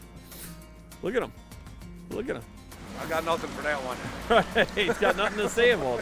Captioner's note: laughing